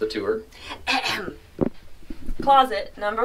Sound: clears throat

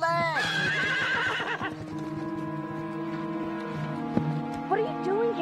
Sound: horse neighing

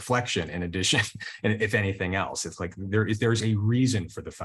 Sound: chuckles

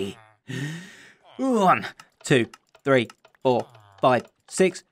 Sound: deep breath

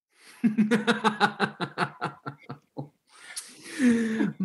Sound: Torvald laughs

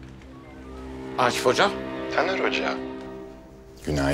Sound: Akif voice

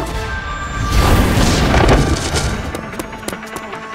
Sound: banging

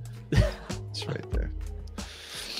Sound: laughs

